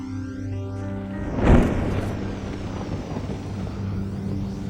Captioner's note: thunder crashing